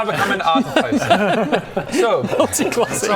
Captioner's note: worried giggles